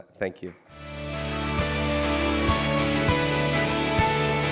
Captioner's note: applause